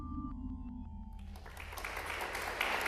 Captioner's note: applause